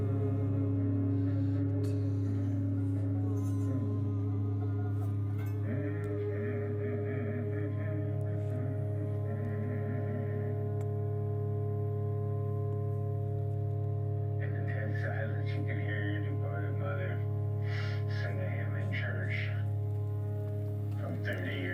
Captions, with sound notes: - [Voiceover] Dead Silence, you could hear your mother, sending him in church from 30 years ago.